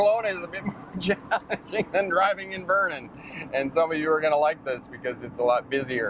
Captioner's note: laughing